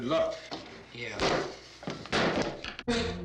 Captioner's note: wood clattering; foreboding instrumental music